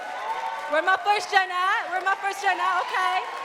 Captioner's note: audience cheering and clapping